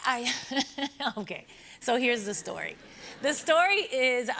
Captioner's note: laughs